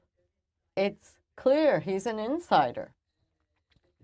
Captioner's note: speaking French